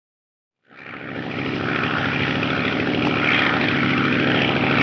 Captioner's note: plane engine rumbling